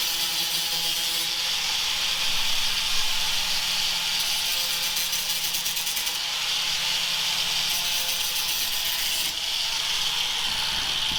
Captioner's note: saw whirring